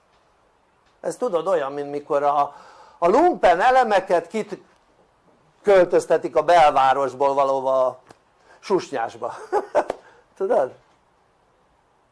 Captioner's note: laughter